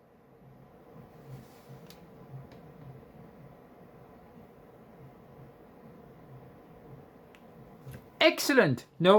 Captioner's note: fans still spinning in the background